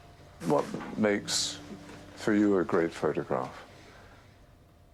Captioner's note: voiceover